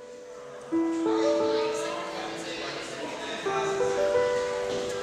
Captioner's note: students chattering